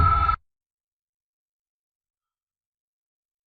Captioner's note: long intentional silence